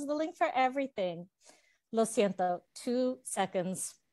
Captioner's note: Spanish